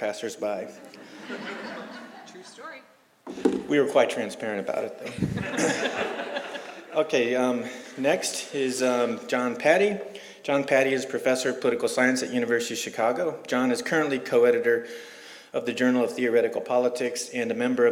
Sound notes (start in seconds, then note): 5.0 laughter